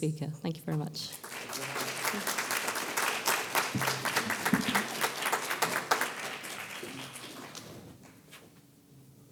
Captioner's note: applause